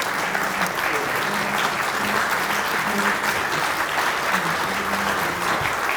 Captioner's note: audience applauding